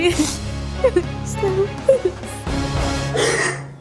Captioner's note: sobbing